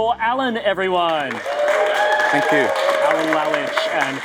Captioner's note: audience applauding